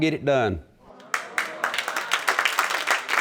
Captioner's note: audience applauding